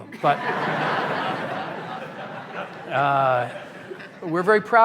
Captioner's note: laughter